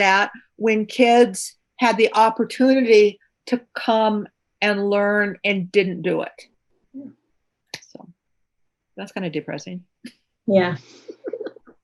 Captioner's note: laughs